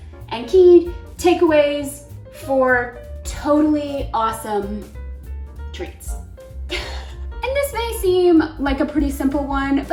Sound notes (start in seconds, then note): 6.7 chuckles